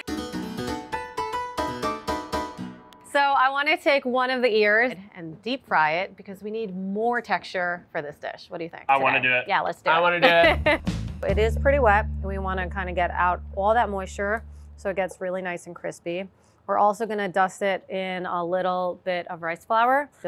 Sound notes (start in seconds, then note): 0.0 upbeat music; 9.8 rhythmic music; 10.0 laughing